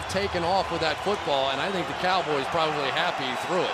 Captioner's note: cheering